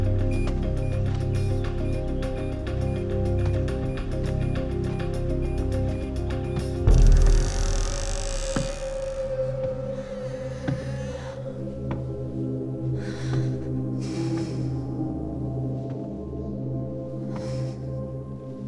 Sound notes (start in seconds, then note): 6.8 door creeks; 10.1 ominous music; 13.0 Mary breathes shakily